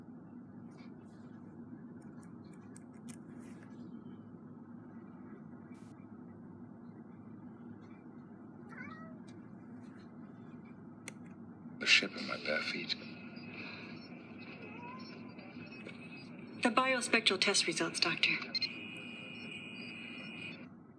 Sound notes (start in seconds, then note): 8.6 cat meows, laptop picks up in the middle of Season 7, ep 25 of Star Trek: TNG